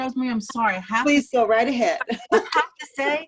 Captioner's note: laughter